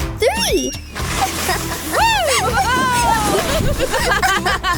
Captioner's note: laughter